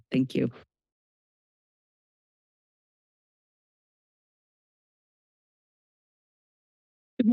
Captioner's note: silence